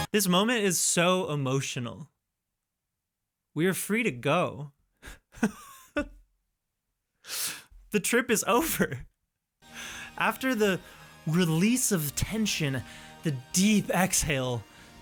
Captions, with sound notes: This moment is so emotional. We are free to go. [Laughs] The trip is over. After the release of tension, the deep exhale,